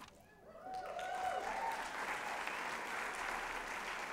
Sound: applause

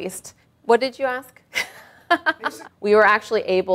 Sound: laughing

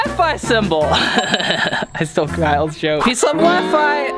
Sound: laughing

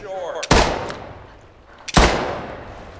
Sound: gunshots

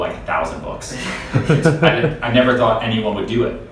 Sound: laughing

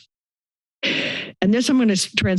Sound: inhales

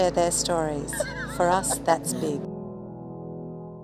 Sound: laughing

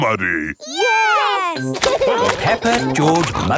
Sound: laughing

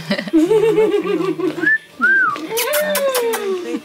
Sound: whistles

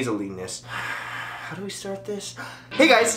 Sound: sigh; gasp

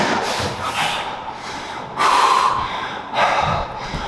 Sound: heavy breathing

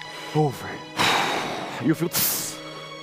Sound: sigh

